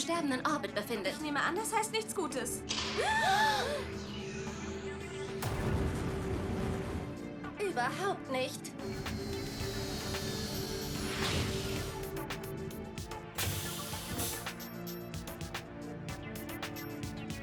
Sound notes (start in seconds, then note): 4.4 gasp; 5.4 explosion; 10.8 engine roaring